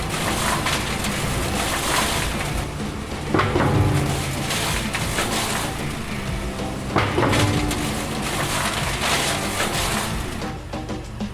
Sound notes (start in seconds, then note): 0.1 machine crushing; 3.6 metal banging; 4.7 machine crushing; 7.1 metal banging; 7.9 machine crushing; 11.1 rock music